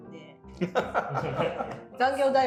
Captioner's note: laughing